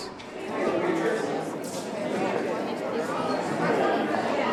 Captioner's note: crowd talking